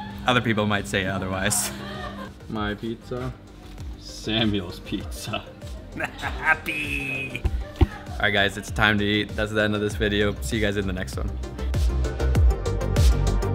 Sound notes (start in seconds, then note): 5.9 laughs